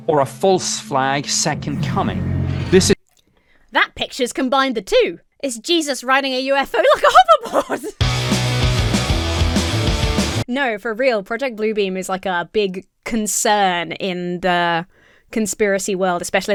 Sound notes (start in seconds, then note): 6.8 laughs; 8.0 punk rock music